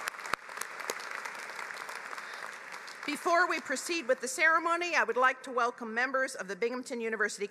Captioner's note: applause